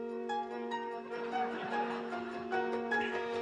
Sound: laughter

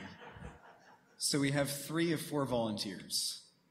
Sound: laughter

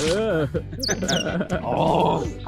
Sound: laughs

